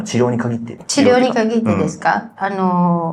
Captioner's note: laughs